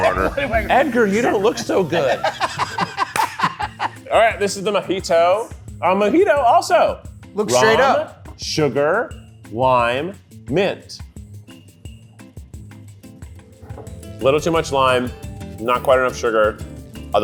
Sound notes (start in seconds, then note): 1.2 laughs